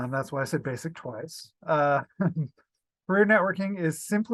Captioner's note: laughs